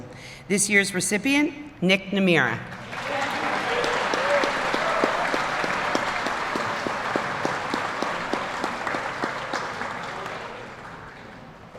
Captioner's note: applause